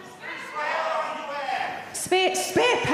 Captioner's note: audiences shouting